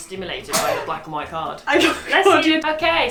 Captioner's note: sneezes